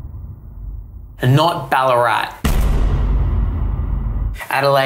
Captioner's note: bang